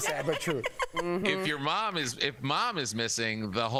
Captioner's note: laughter